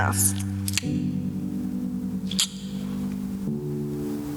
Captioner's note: tongue click